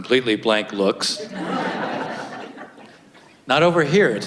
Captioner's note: audience laughs